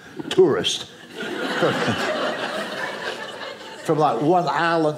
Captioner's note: audience laughing